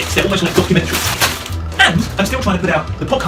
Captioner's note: wrappers crackling